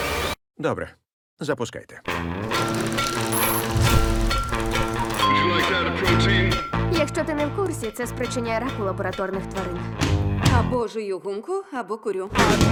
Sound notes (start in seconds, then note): 0.3 music stops; 5.2 ding